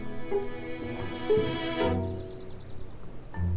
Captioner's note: W.C. door opens